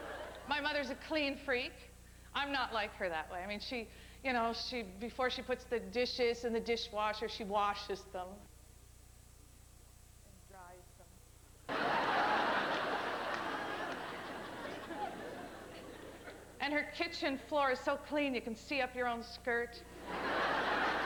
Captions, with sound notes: A CLEAN FREA ' I'M NOT LIKE HER THAT WAY. YOU KNOW, BEFORE SHE PUTS THE DISHES IN THE DISHWASHER SHE WASHES THEM. AND DRIES THEM. [laughter] AND HER KITCHEN FLOOR IS SO CLEAN, YOU CAN SEE UP YOUR OWN SKIRT.